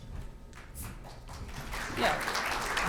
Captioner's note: applause